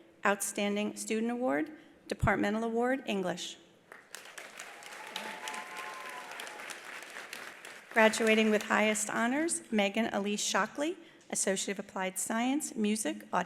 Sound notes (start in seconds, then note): 3.9 attendees applauding; 4.3 attendees cheering